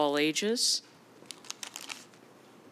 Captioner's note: paper crinkling